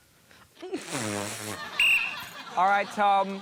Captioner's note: blows whistle